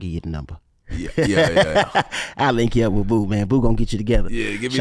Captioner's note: laughs